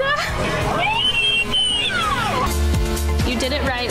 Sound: mom screams

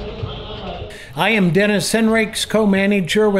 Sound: voiceover

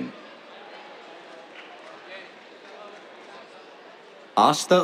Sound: applause

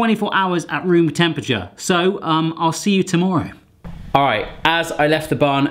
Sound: none

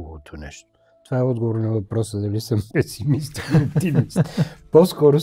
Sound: laughter

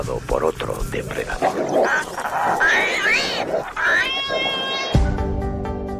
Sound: growls and cries

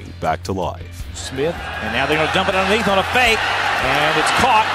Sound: voiceover

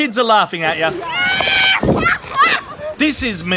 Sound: laughing

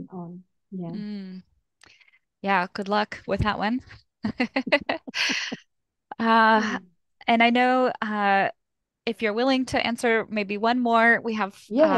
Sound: laughter

